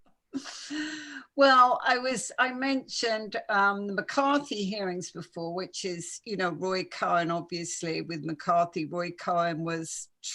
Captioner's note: laughs